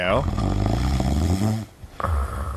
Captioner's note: snoring